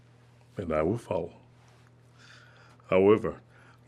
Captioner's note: none